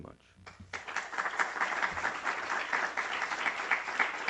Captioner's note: applause